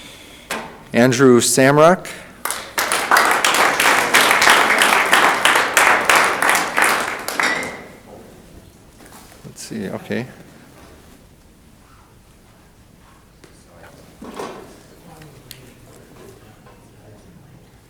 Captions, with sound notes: Andrew Samrock. (audience applauding) Let's see, okay.